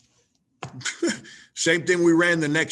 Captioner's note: laughs